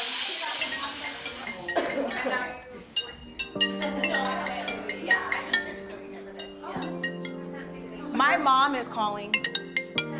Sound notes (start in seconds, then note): 1.2 phone rings; 9.9 phone continues ringing